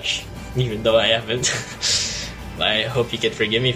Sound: chuckles

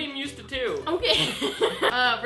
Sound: nervously laughs

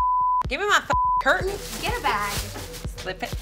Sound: beep

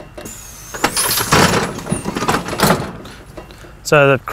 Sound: loud banging

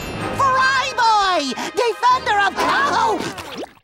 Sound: screaming

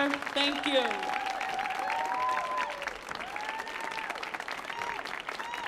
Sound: audience cheers

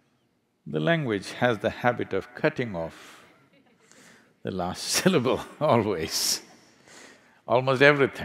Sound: laughs

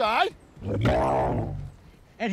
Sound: camel bellows

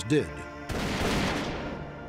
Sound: gunshots

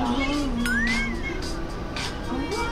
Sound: Confident voice of Baby Bread

